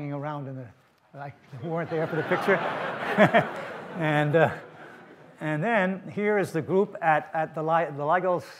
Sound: audience laughter

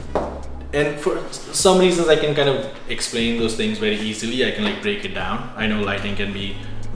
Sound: stammers

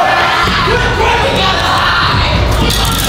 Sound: screaming

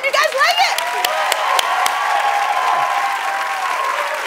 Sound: cheering and applause

